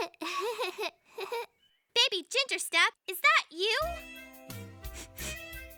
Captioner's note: laughs; sniffs